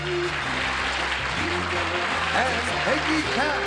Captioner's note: applause